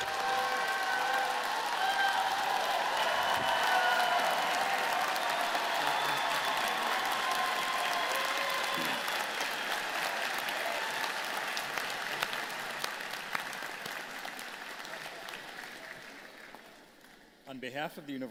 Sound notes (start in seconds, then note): 0.0 applause; 3.7 cheers and applause